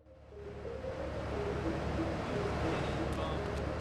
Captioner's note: engine revving